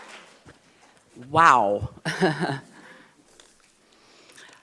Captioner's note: laughs